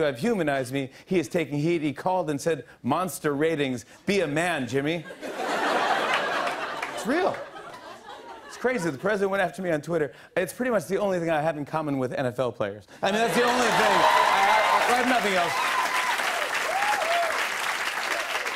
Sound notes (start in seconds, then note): 5.0 laughter; 15.7 cheers and applause